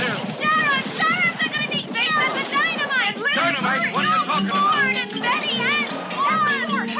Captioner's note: women screaming confusedly